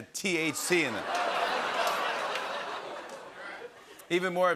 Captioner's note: laughter